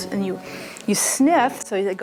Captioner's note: sniffing